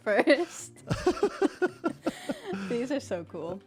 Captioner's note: BOTH laugh